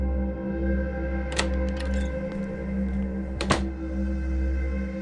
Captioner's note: door opens, closes